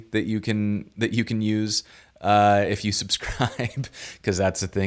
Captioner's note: laughs